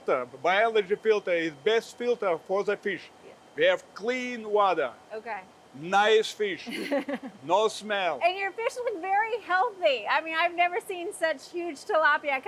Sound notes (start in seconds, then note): 6.6 laughing